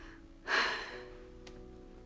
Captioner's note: sighs